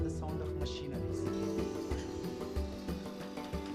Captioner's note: whirring